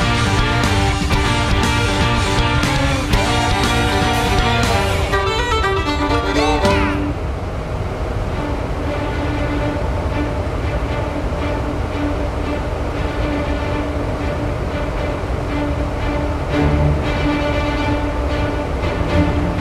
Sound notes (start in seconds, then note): 9.2 dryer blowing; 11.0 suspenseful music